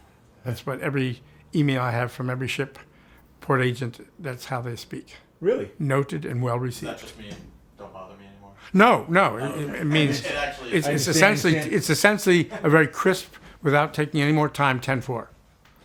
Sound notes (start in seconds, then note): 9.9 chuckles